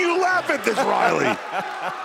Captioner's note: laughter